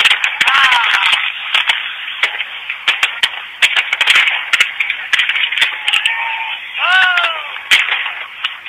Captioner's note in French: feux d'artifices qui éclatent, gens qui crient